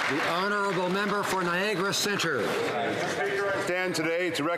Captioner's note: some Applause